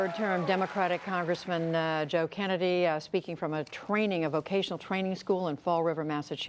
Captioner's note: cheers and applause